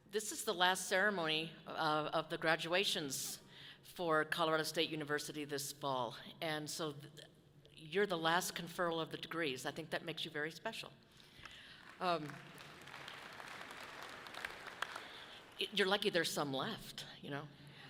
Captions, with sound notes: This is the last ceremony of the graduations for Colorado State University this fall. And so you're the last conferral of the degrees. I think that makes you very special. (audience clapping loudly) You're lucky there's some left, you know.